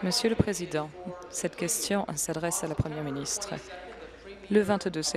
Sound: applause

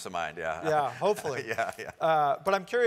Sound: laugh

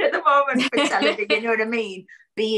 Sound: laughs

